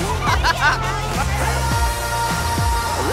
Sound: laughs

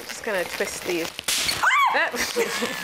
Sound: balloon pops; screams

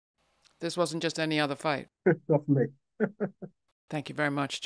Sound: laughs

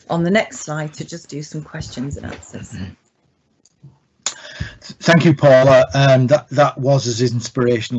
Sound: laugh

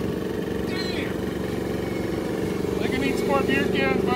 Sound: machine roars

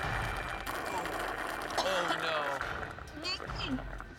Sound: coughing; gagging

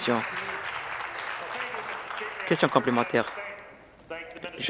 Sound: applause

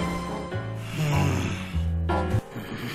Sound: disgruntled moan

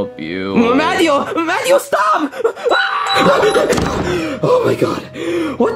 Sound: panting

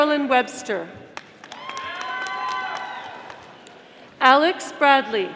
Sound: audience applauding

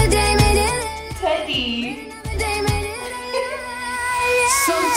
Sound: laughs

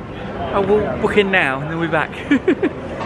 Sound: laughs

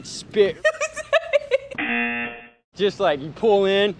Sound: uncontrollable laughing; buzzer

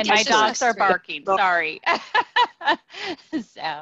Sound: laughing

